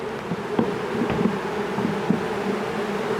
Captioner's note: very intense bee buzzing